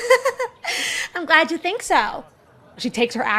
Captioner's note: laughs